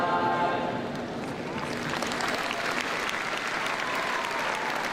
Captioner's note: people cheering